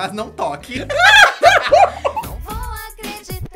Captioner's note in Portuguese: ambos riem